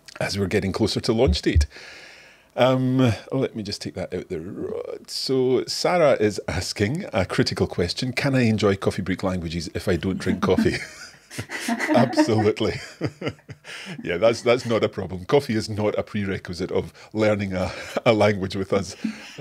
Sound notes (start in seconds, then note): 10.2 both laughing